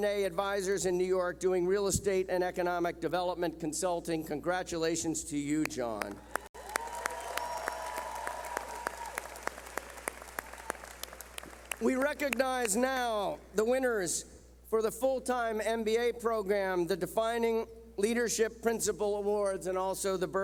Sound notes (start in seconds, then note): 6.0 clapping